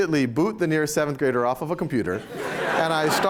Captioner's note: laughter